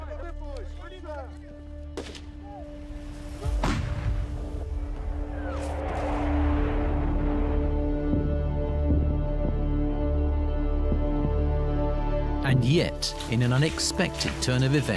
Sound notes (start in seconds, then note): 0.3 gunshots blast; 5.2 aircraft roars; 5.2 booms echo in distance